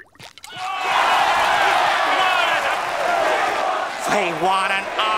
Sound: cheering

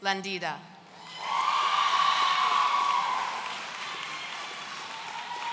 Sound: audience cheering

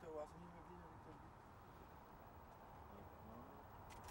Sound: camera clicking

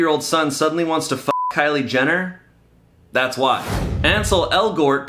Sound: beep

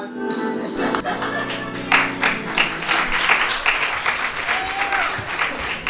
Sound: audience cheering

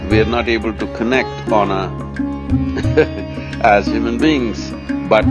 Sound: laughs

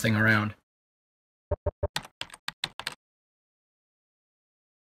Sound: typing sounds

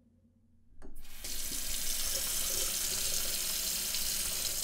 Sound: water splashes

